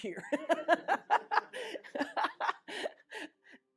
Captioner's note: laughter